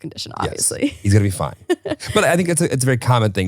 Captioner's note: chuckling